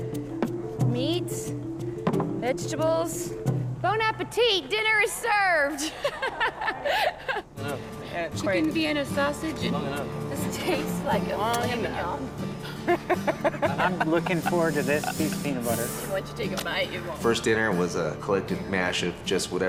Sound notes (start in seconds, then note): 5.7 laughs; 12.6 laughter